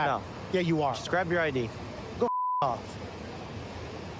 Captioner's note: beep